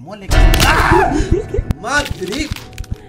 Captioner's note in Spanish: Grita